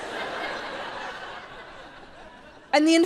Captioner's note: audience laughs